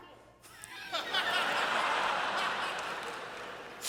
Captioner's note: laughter